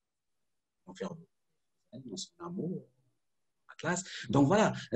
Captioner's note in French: coupure audio